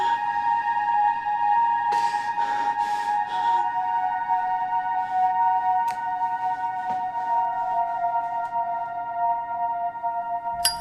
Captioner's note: panting